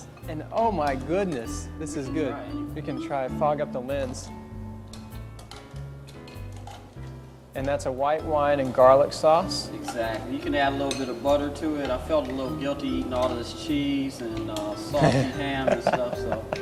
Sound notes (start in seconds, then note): 4.7 shells clattering